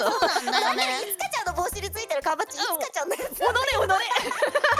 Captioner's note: laughs